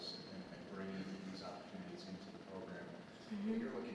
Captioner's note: none